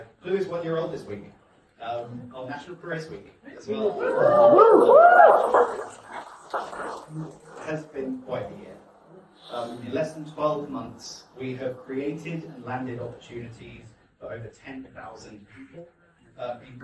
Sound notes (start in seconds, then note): 3.7 guests cheer